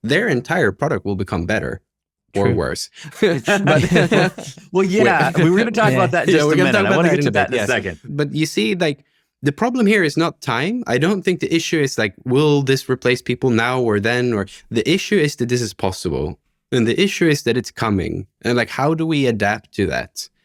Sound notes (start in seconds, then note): 2.9 all laughing